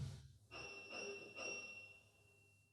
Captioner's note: doorbell